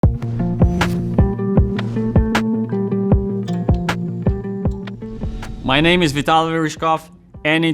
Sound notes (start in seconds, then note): 0.0 logo whooshing; 0.0 upbeat music